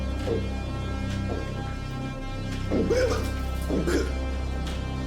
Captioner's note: Larry gulping and spluttering